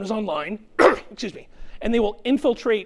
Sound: clears throat

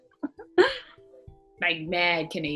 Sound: laughing

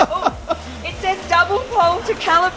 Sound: laughing

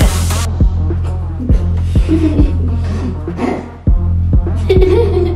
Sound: children giggling

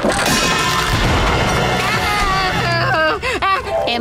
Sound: screaming

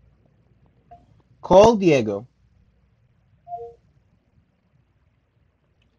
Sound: phone beeps

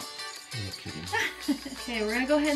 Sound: laughing

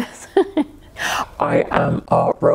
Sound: giggling

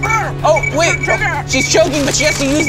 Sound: app beeps

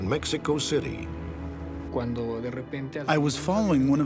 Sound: speaking spanish

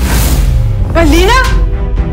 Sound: slaps

